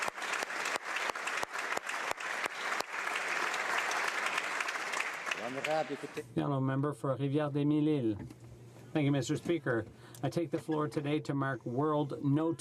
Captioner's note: applause